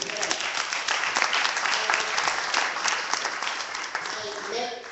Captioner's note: clapping